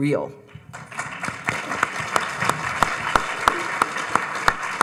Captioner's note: audience applauding